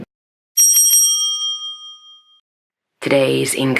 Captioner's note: bell rings